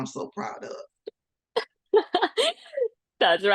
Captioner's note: laughter